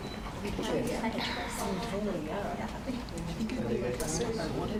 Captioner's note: audience murmurs